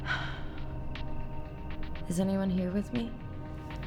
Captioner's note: sighs